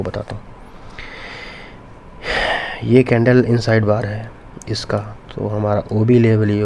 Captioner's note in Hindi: गहरी सांस लेने की आवाज़